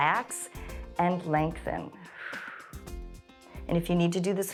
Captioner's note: exhales